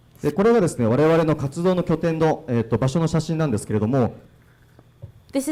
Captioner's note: speaking foreign language